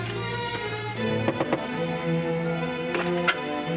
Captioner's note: knocking on door; door opens